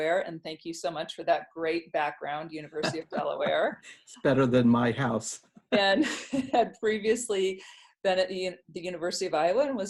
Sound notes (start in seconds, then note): 5.8 laughs